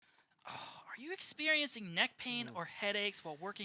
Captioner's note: sighs